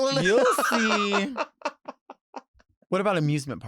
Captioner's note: laughs